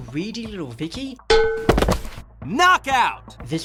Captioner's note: body tumbling